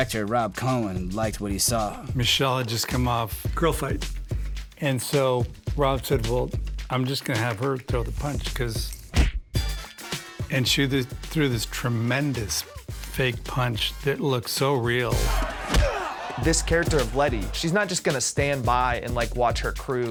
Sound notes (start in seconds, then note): 15.6 impact grunts